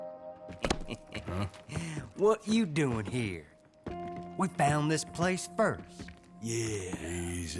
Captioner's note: laughs